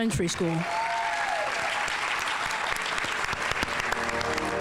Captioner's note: audience applauding